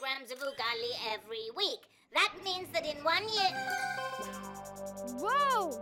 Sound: chiming

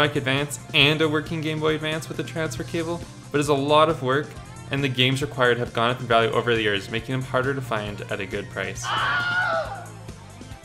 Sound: Wilhelm Scream

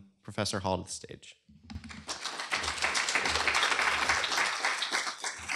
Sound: applause

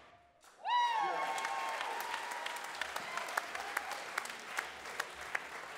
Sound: audience cheers and applauds

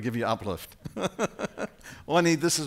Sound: laughing

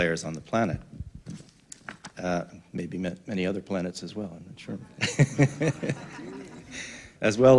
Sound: laughter

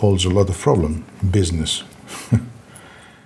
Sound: laughs

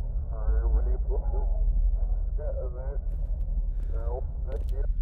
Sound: radio crackles

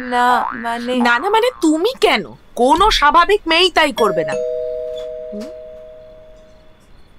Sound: bell ringing

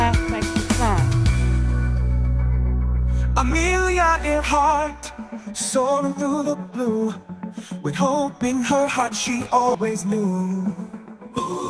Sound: oooh

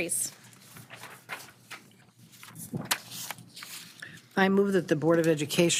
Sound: papers shuffling

